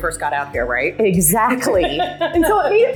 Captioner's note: laughter